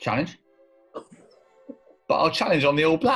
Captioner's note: exhales